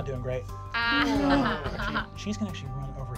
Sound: laughing

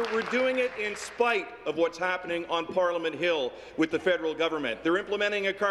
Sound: applause

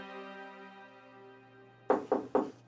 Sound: door knock

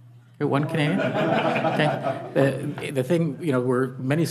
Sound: audience laughing

